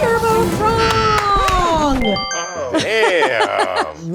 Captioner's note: Karamo clapping